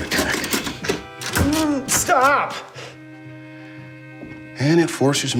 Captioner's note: grunts